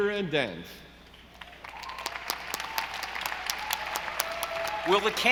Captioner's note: audience applauding